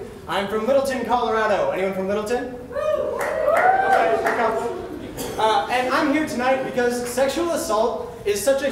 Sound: A few people cheer

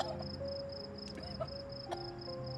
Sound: coughing

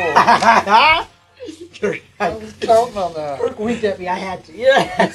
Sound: cackling; all laughing

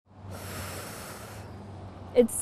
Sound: emotional exhale

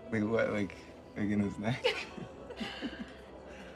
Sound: both laugh

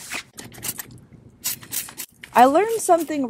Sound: spraying

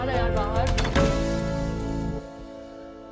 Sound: door closes

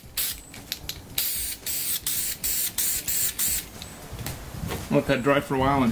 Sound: spraying paint

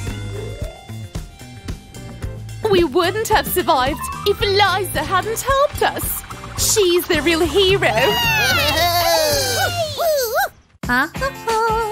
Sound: teeth chattering

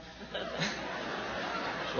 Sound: laughter on video

